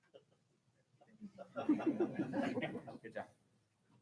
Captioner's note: audience laughing